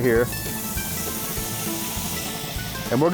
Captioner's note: sizzling